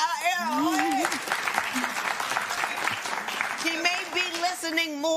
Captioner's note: applause